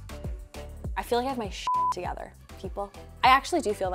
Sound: soft upbeat music; beep

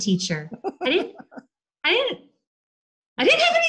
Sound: laughs

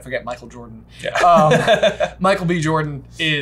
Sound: laughs

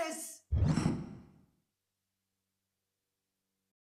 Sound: air whooshing

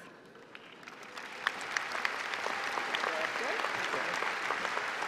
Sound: applause

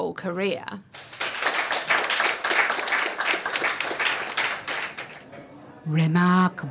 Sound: applause

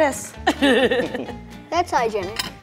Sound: laughing

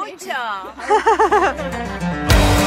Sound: laughing

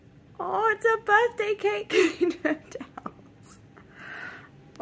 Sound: laughs

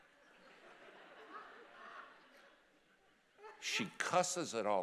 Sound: congregation laughing

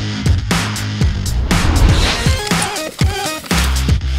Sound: tape measure rustling; dramatic music

